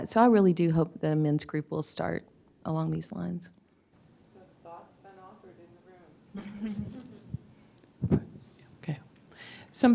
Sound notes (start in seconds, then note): 6.3 laughter